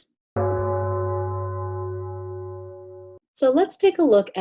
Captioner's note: gong ringing